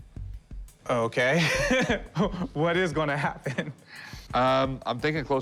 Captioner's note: laughs